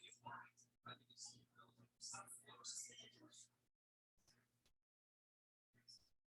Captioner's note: people chattering indistinctly